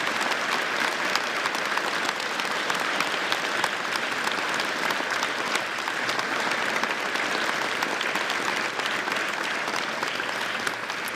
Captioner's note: applause